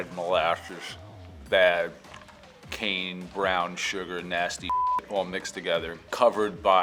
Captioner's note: beep